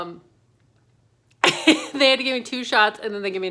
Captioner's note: laughs